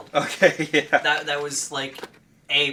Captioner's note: laughing